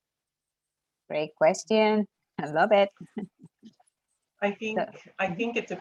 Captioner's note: laughs